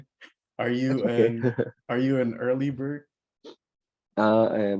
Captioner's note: laughs